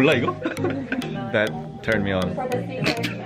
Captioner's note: laughs